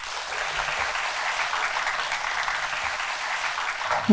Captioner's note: applause